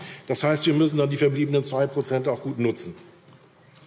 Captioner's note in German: none